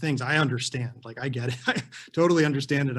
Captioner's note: chuckles